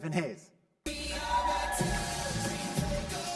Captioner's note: cheers